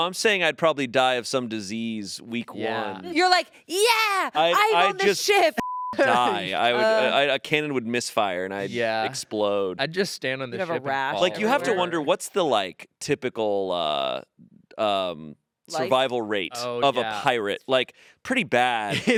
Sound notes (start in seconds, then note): 5.6 beep